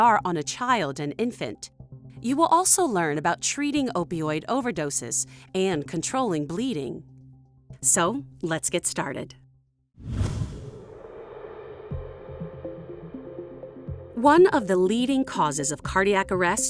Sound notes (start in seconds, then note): 10.0 graphics swoosh; 11.8 soft music